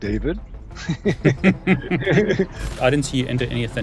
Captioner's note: chuckling